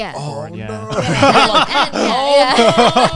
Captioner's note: laughing